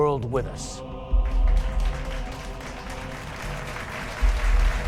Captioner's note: audience clapping